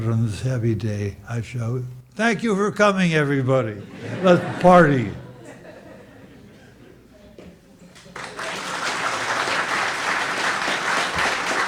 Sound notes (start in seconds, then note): 3.1 audience laughs; 7.9 audience applauds